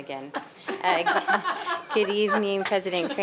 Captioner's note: board members laughing